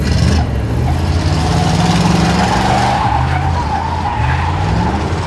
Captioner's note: car tires squealing